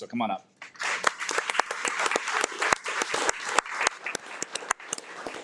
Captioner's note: audience applauding